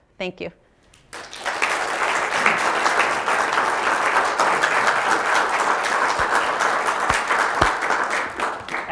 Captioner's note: applause